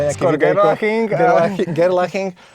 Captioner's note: laughs